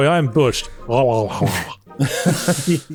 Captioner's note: fake yawning sounds